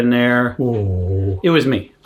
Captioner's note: dog groaning